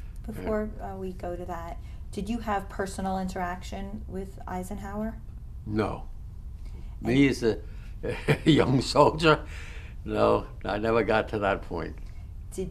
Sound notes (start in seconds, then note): 8.0 laughs